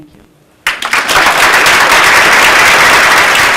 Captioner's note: applause